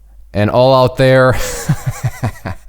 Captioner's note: laughs